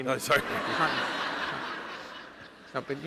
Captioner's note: laughter